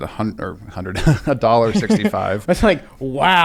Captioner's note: chuckles